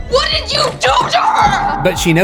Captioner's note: screams